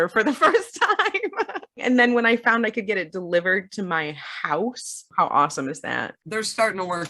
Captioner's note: laughs